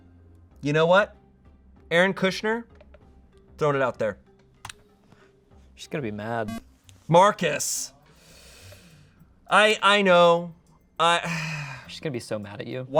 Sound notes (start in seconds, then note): 6.4 electronic beep